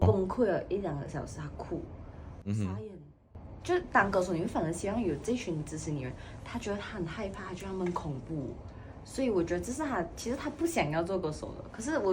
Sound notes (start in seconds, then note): 2.5 he cried